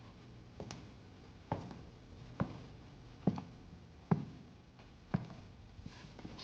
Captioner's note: footsteps patter